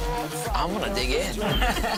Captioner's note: laughter